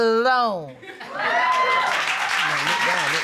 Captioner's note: cheering, applause